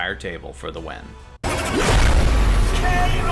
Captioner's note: blast sounds